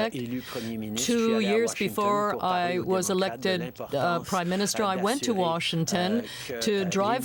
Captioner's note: speaking French